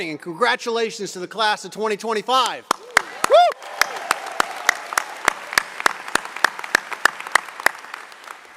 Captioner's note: applause